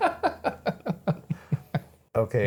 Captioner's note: laughing